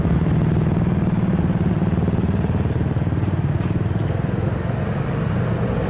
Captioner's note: rumble